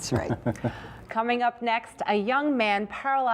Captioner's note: laughter